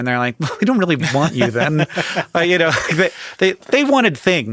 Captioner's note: laughs